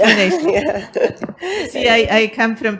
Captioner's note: laughs